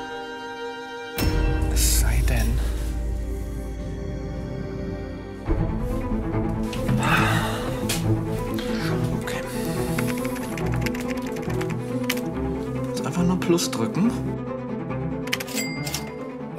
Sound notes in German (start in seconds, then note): 1.7 Düstere Töne; 9.8 Schnelle Tippgeräusche; 15.3 Kassenklingeln